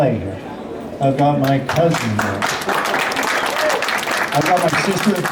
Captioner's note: applause